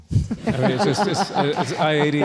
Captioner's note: laughter